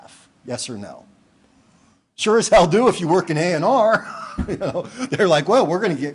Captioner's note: laughing